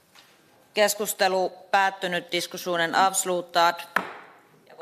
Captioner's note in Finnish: nuijan kopautus